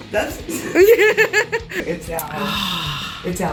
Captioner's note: laughs